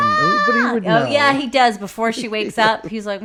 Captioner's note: screams